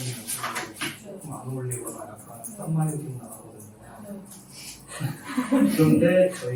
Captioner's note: laughter